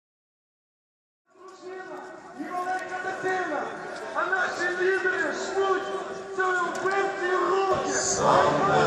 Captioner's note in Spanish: Discurso y gritos